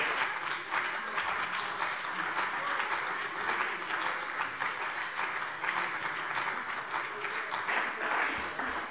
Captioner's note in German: Beifall bei dem BÜNDNIS 90/DIE GRÜNEN und der CDU